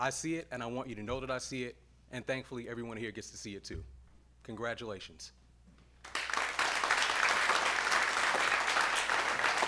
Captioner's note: applause